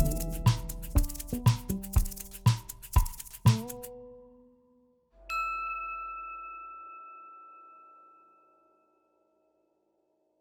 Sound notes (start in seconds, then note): 0.0 upbeat music; 5.3 bell chiming